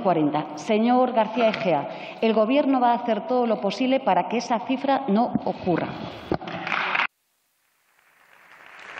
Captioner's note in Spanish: Aplausos